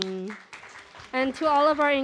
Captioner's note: applause